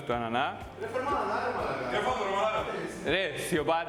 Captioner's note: voices arguing in the studio